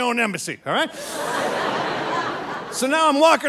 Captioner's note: audience laughing